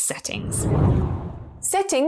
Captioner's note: video effect whooshes